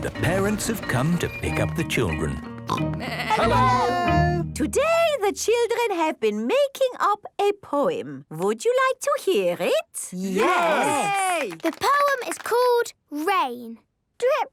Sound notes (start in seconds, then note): 3.0 parents calling out